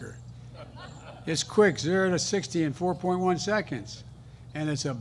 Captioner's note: laughter